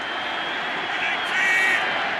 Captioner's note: cheering